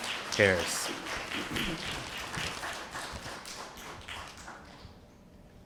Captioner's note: applause